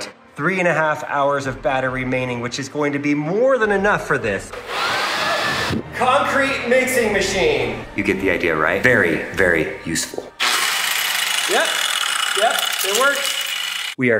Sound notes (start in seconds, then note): 4.6 leaf blower whirring; 10.4 grinder buzzing